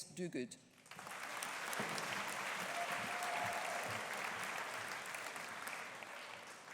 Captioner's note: audience applauding; audience cheering